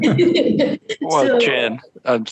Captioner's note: group laughs